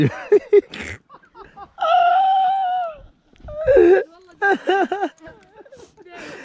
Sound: laughter

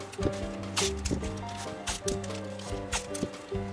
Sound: tape ripping

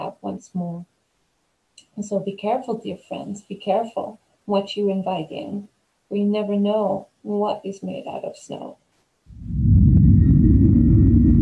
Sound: spooky sound transition

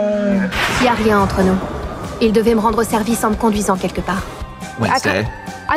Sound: speaking French

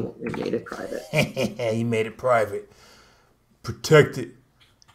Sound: laughs

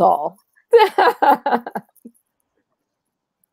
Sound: laughing

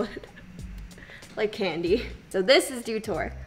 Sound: laughs

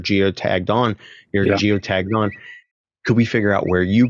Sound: Twitter bird tweeting

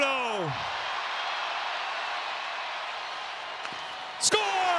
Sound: audience cheering

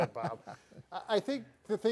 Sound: chuckling

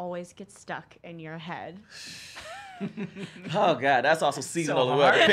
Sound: all laugh

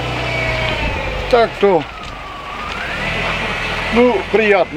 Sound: sound of car engine

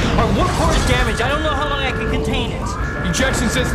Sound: alarm

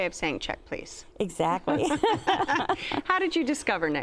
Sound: laughter

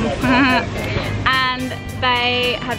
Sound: laughs

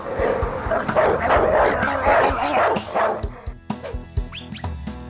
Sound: aggressive Barking

